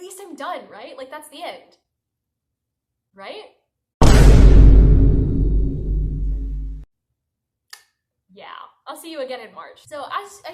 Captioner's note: Vine boom